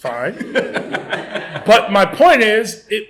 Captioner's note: laughter